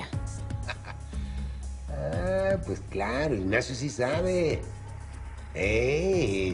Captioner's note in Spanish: riendo